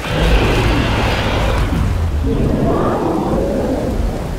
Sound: spinosaurus bellows

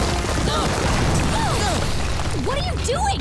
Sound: groaning

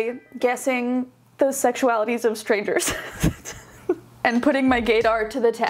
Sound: laughing

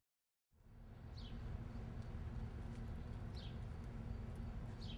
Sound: birds chirping

